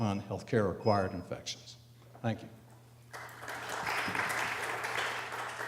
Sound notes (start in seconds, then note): 3.1 audience applauds